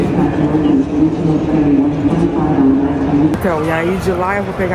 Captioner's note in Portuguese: voz no auto falante